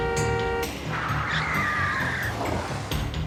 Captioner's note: honking